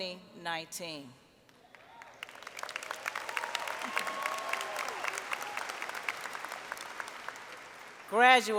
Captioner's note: applause